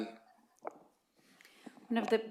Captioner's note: spanish